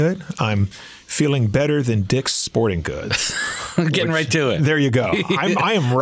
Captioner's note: laughs